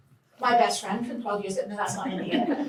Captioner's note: laughter